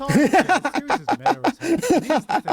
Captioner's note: laughter